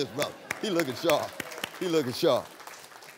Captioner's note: applause